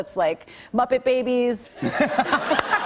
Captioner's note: laughter